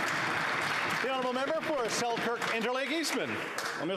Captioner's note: applause